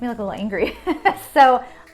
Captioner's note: laughing